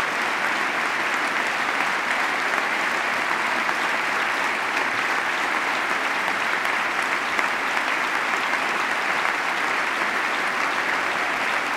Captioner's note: applause